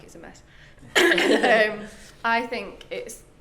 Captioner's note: clears throat